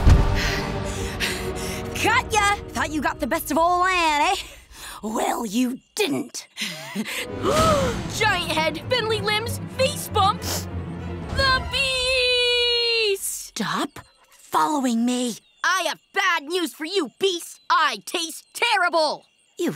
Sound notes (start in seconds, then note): 0.5 panting; 6.7 chuckles; 7.6 gasps; 10.5 sniffs